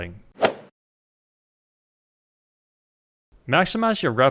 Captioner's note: golf swing sound effect